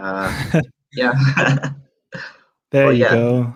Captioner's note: laughing